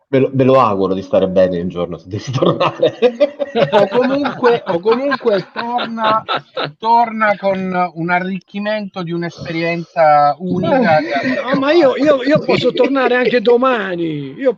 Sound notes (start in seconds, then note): 2.2 laughs